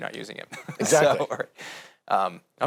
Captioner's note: laughing